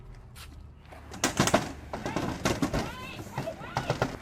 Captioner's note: kids banging